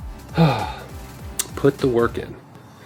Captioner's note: sigh